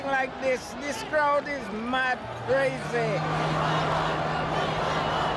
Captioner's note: cheers and Applause